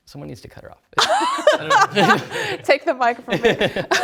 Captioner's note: laughter